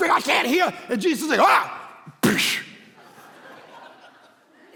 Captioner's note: congregation laughing